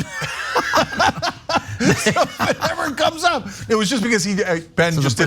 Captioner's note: laugh